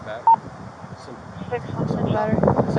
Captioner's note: radio chatter